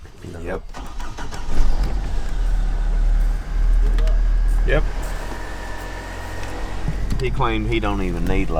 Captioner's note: indistinct talking / vehicles starting